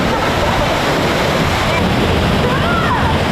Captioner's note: water rushing